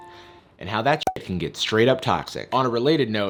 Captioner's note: pop